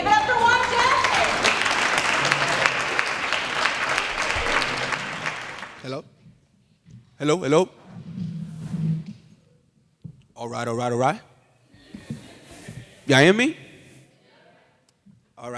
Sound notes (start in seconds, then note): 2.2 applause